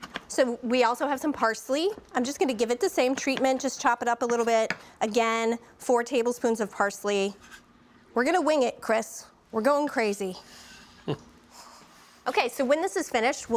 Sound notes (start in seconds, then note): 11.0 chuckles